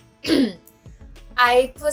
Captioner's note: clear throat